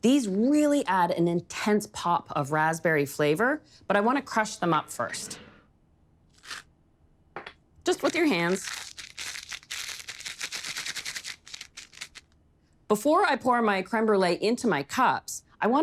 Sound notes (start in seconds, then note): 7.9 crunching